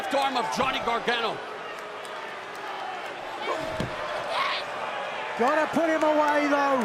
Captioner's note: crowd cheering